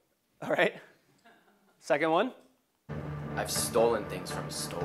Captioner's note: laugh